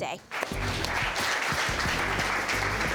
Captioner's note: audience claps